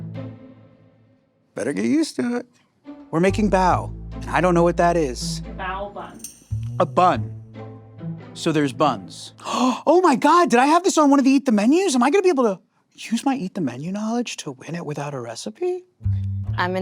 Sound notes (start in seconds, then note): 3.5 playful music continues; 9.4 gasping